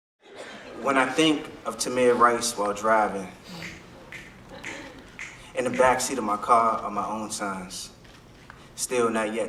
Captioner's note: audience snaps